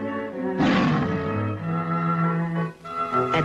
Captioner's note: tiger roars